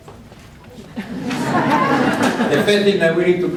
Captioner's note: audience chuckles